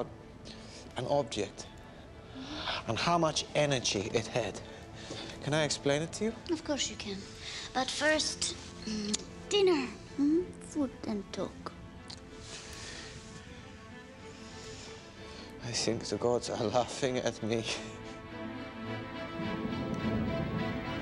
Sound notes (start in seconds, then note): 9.0 kisses